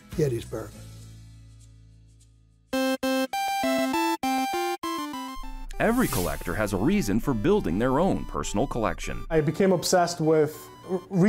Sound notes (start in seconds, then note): 2.8 electronic beeping